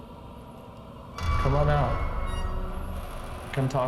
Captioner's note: door creaking